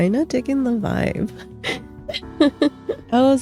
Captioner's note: laughs